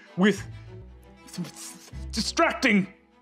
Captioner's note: trips over his words